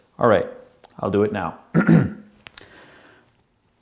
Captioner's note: clears throat